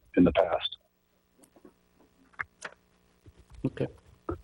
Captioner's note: silence